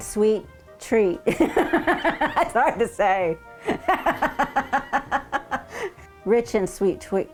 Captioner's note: laughing